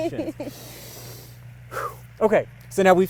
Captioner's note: breathes deeply